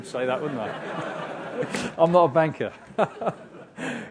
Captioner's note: laugh